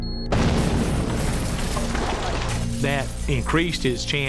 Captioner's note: explosion